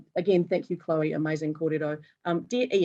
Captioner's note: speaking foreign language